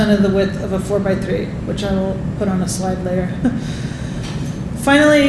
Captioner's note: laughing